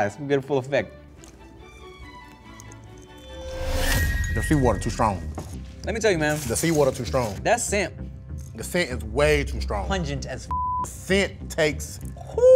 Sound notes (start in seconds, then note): 0.8 dramatic suspenseful music; 10.5 beep